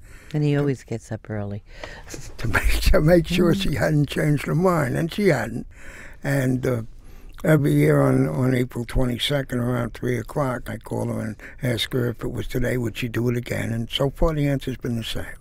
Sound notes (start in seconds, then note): 3.0 laughing